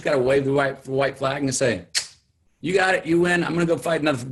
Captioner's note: lips smack